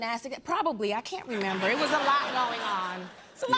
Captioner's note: laughter